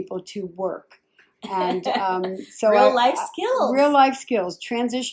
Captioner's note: laughs